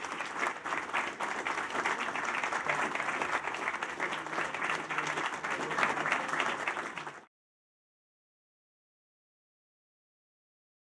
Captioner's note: applause